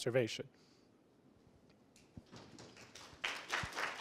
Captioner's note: applause